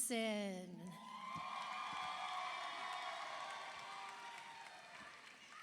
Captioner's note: audience applauds